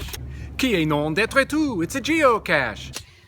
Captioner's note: French